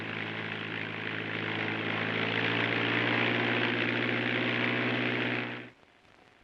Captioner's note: airplane rumbling